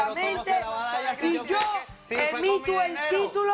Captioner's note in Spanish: discutiendo